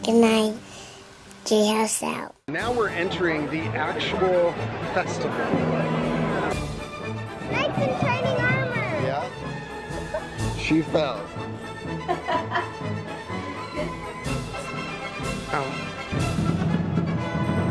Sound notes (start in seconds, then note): 5.0 dramatic music; 12.0 laughs